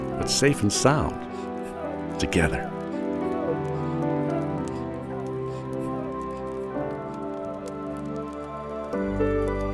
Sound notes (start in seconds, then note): 3.6 fire crackling; 3.6 gentle music